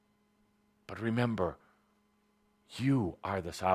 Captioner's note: none